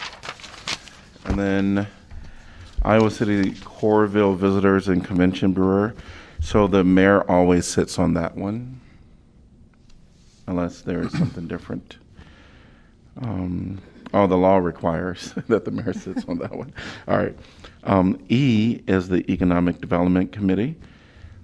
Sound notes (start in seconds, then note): 15.2 laughter